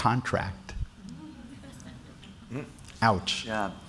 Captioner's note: laughter